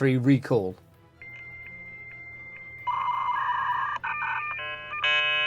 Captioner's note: ringtone